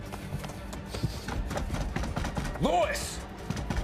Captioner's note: banging on door